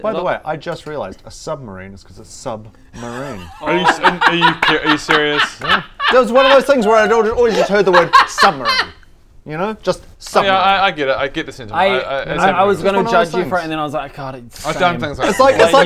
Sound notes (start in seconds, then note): 3.0 patronising laugh; 4.3 slow clap